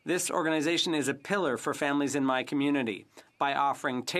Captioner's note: speaking French